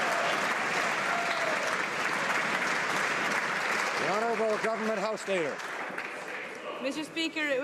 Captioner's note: some Applause